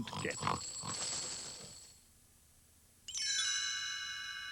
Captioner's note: coins jingling